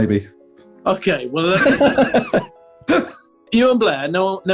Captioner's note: laughter